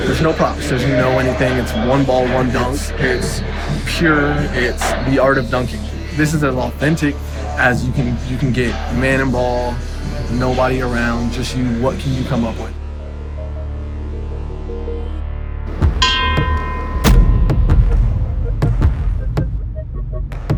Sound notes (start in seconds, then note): 15.7 bell ringing; 17.6 dramatic music